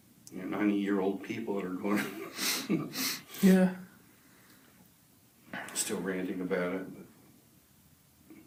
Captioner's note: laughs